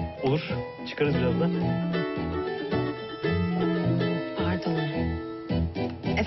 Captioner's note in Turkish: Telefon çalıyor